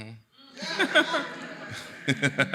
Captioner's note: laughs; audience laughing